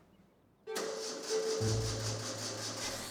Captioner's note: ignition failing